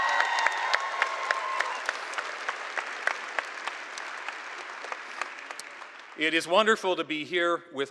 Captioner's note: cheers and applause